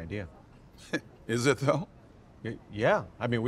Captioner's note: scoffs